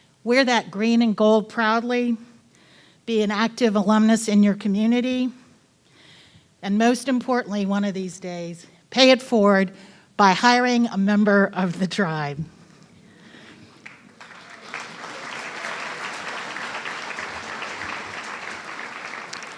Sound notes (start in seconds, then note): 13.8 audience applauding